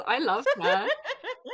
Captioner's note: laughs